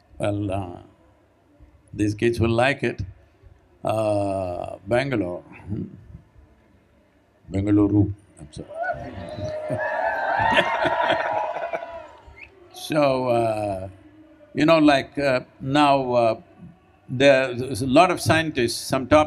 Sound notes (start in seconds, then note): 8.6 cheering; 9.1 both laugh